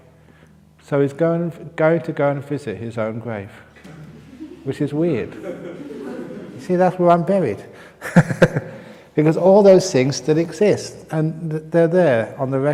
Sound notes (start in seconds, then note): 3.8 laughs; 8.0 laughs